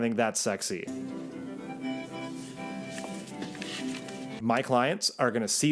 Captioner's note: calm music; paper rustling